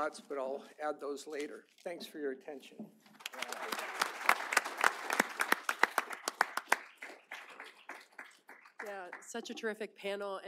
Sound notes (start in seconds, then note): 3.1 applause